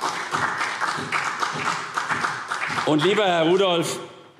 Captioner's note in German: Beifall CDU und BÜNDNIS 90/DIE GRÜNEN